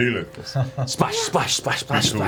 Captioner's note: laughs